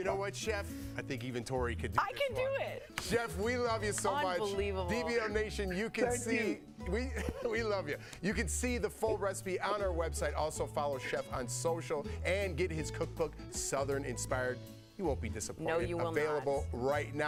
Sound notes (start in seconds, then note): 3.1 laughter